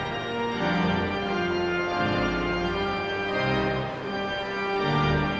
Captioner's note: audience chattering continues